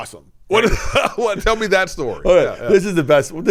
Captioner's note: laughs